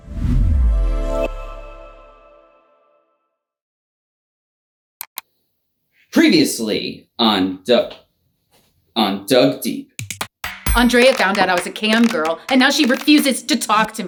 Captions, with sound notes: (serene music) (mouse clicks) - Previously on Doug- On Doug Deep. - Andrea found out I was a cam girl, and now she refuses to talk to me!